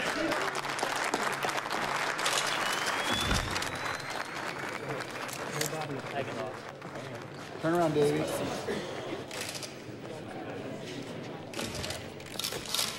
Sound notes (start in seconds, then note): 0.5 crew applauding; 3.0 camera flash whining